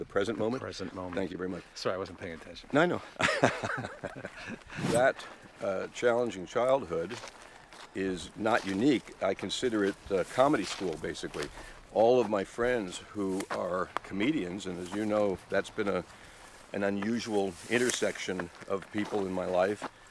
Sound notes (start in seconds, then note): 3.0 laughing